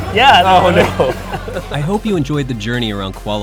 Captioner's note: laughing